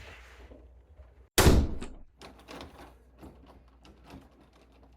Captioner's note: door slamming